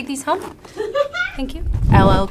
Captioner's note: laughs